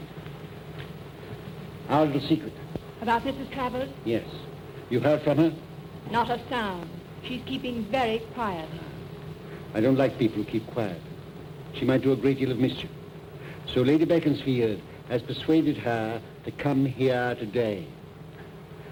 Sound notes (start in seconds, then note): none